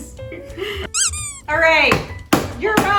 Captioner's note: bangs spatula